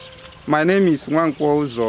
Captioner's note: birds chirping